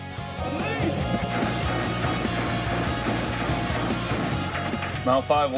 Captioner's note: machine gun blasting